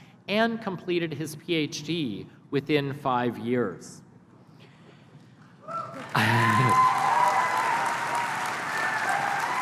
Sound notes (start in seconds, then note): 5.7 applause